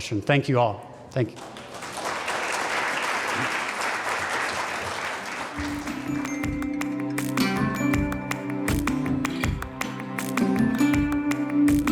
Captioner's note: applause